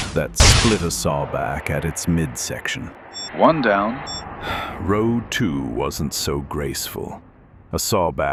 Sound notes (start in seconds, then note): 4.4 sighs